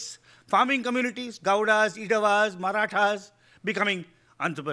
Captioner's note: speaking in foreign language